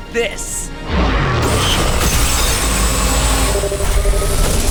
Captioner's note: blast